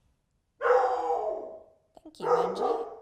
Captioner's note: dog barking